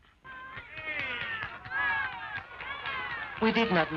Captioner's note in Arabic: هتاف الجمهور